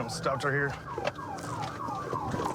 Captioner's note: sirens blaring